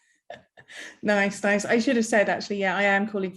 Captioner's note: chuckles